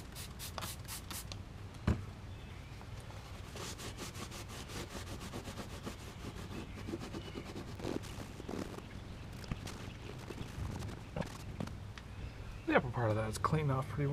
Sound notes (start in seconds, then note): 3.3 sound of scrubbing